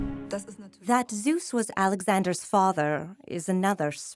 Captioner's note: in German